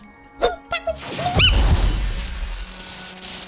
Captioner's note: luvbi screams